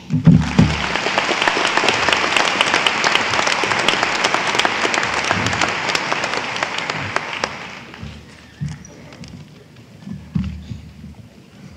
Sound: applause

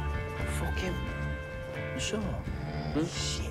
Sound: snoring

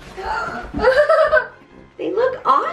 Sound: laughing

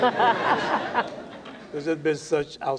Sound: laughter

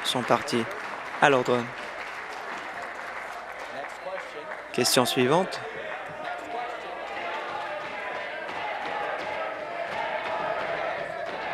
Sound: applause

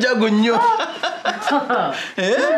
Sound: laughter

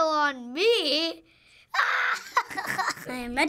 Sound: laughing

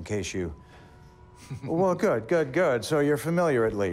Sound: chuckles

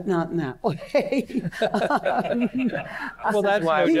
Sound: laughter

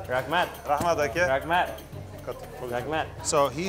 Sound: speaking foreign language

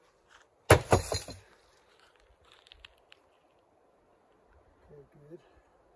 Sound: sound of the plank hitting the ground

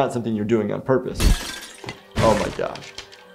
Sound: window breaks

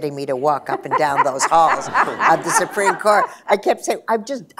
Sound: laughter

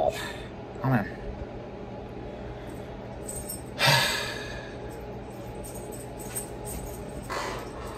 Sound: sighs

